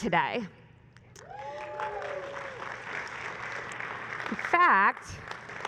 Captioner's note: applause